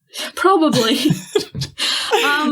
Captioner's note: laughing